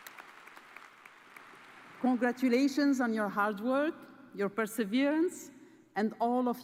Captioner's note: cheers and applause